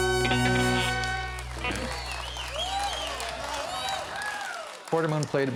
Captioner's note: audience applauds